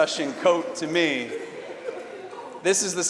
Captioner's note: laughter